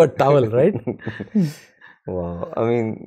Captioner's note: laughter